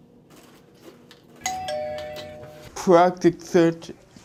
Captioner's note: doorbell